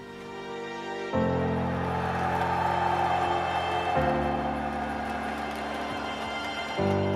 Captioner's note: cheering